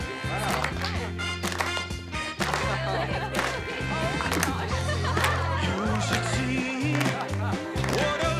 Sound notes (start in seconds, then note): 0.0 laughs; 0.2 students clap rhythmically; 1.9 upbeat 60s pop music; 4.6 laughs